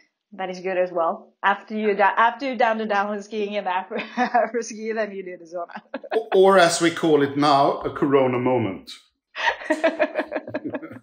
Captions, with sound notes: That is good as well. After you've done the downhill skiing, then you do that as well. Or as we call it now a "Corona moment" (laughs).